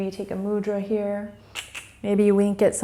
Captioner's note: clicks tongue